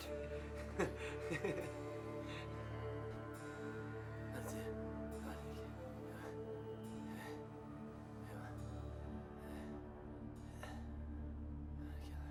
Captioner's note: laughing